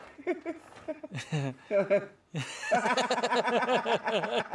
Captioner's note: both laughing